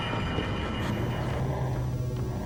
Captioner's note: computerized humming